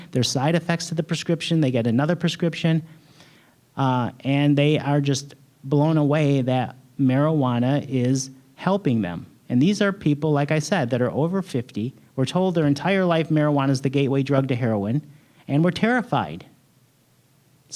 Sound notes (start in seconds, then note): none